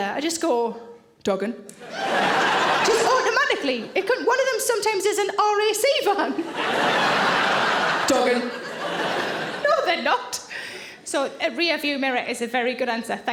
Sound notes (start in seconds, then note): 1.8 audience laughing; 6.4 audience laughing